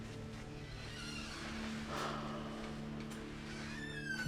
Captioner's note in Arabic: يفتح الباب